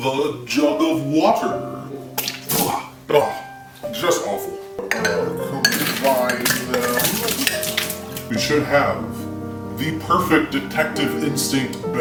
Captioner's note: spit